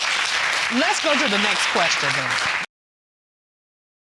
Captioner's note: audience applauds